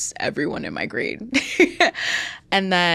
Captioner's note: laughs